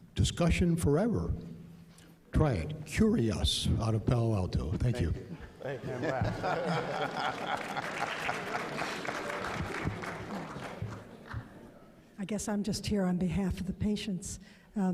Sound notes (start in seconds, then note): 6.6 applause